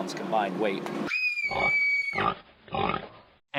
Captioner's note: oinking